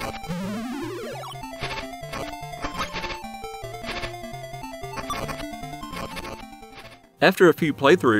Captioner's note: game Sounds